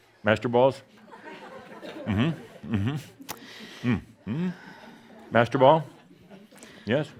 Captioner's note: more chuckles, as he offers them to audience members